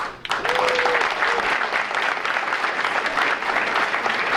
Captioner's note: audience applauding